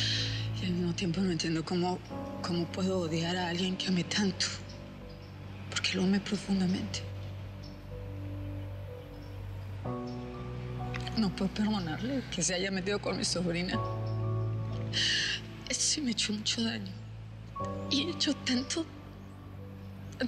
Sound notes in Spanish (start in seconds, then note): none